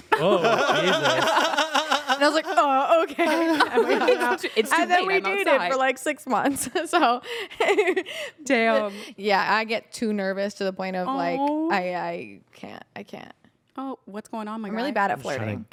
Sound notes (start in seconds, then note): 0.1 everyone laughs; 8.1 laughs